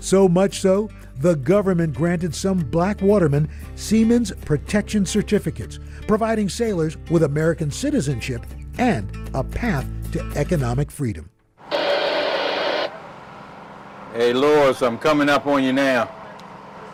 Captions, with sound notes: So much so the government granted some black watermen Siemens protection certificates, providing sailors with American citizenship and a path to economic freedom. (radio static) - Hey, Lawrence, I'm coming up on you now.